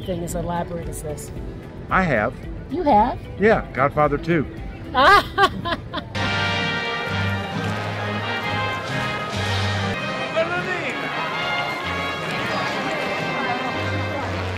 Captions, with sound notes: as elaborate as this. I have. You have? Yeah, Godfather II. [Laughter]